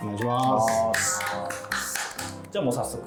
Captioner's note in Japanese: 拍手